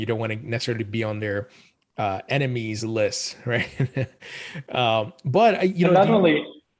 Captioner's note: chuckles